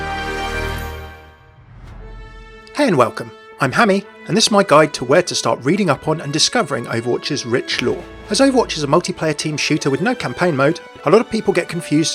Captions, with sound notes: - [Voiceover] Hey and welcome. I'm Hammeh and this is my guide to where to start reading up on and discovering Overwatch's rich lore. As Overwatch is a multiplayer team shooter with no campaign mode, a lot of people get confused